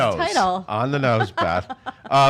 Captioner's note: laughing